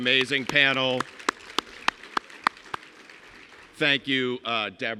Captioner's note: everyone clapping